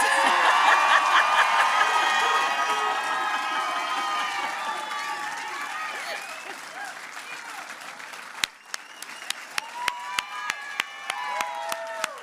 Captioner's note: applause